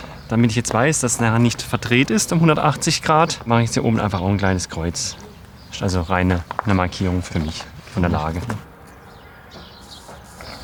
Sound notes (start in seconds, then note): none